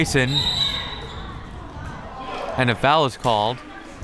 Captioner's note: whistle tweeting